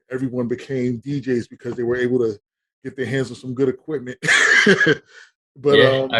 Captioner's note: laughing